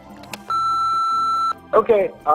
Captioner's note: answering machinie tone